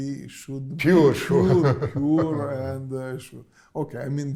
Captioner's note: laughs